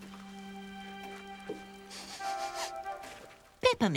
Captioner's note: sniffing